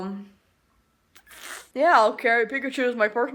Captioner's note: lip noises